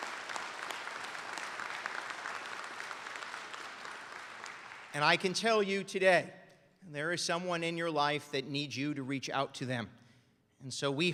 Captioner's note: applause